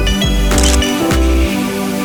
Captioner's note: photo Click